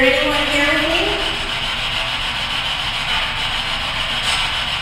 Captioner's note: static buzzing